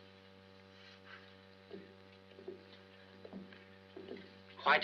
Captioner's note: footsteps